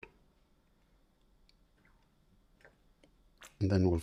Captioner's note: silence